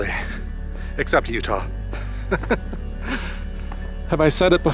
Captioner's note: laughs